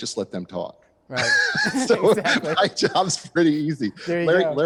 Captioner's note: laughing